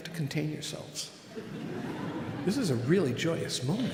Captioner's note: audience laughing